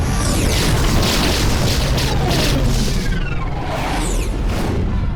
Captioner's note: laser blasts